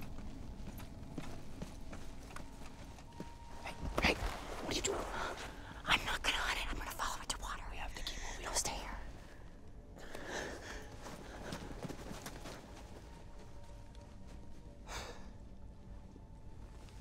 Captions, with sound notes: [whispers] Hey, hey! What you doing? [whispers] I'm not gonna hunt it, I'm gonna follow it to water. -We have to keep moving. -No, stay here. [sighs]